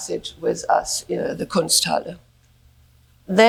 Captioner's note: speaks in German